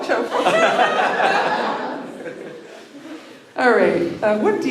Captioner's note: laughter